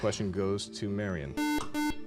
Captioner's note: beep